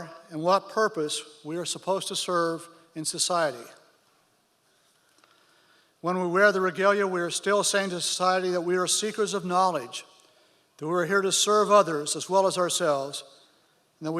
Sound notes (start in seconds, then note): none